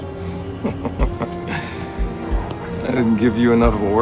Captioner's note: chuckles